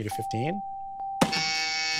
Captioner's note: buzzer